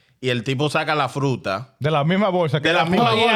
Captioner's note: speaking In Foreign Language